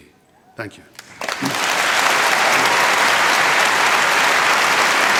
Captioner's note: applause